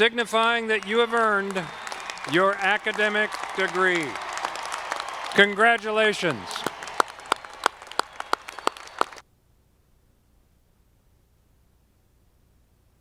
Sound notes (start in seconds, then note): 6.6 audience applauding